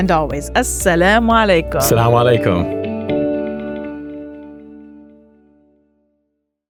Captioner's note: hosts speaking in foreign language